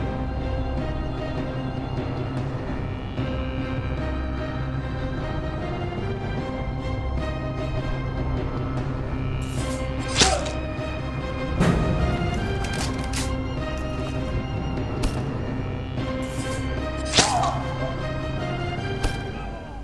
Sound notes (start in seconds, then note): 10.1 death Moan; 17.0 death Scream